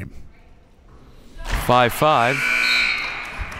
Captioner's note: clock buzzes; crowd clapping